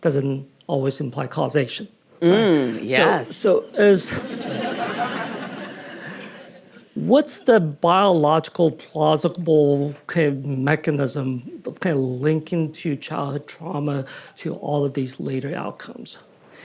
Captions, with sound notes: doesn't always imply causation. - Mm, yes. (audience laughing) - What's the biological, plausible mechanism kinda linking to childhood trauma to all of these later outcomes?